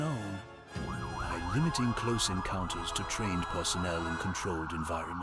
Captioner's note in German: Sirenen von Krankenwagen und Polizei heulen